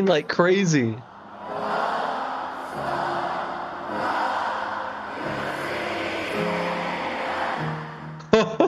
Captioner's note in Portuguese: plateia brasileira gritando loucamente